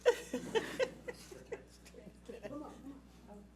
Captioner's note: laughing